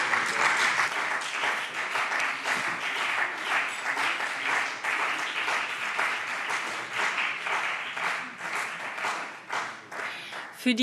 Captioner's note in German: Beifall CDU und BÜNDNIS 90/DIE GRÜNEN